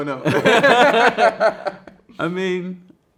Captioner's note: both laughing